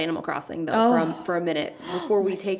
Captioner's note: sighs